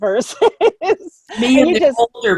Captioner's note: laughs